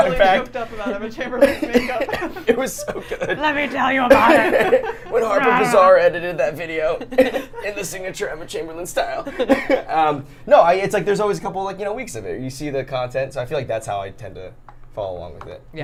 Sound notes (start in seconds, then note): 0.0 laughs; 1.4 laughs; 4.7 laughing; 9.2 laughs